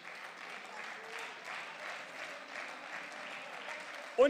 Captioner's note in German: Beifall